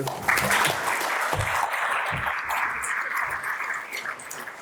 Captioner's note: audience applauds